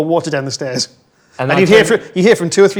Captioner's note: overlapping chattering